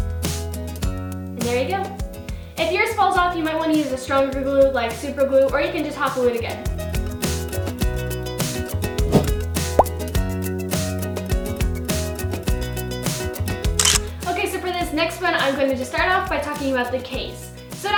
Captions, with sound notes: And there you go. If yours falls off, you might wanna use a stronger glue like super glue, or you can just hot glue it again. (relaxed upbeat music) (camera clicking) Okay, so for this next one, I'm gonna just start off by talking about the case.